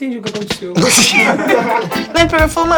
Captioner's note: risos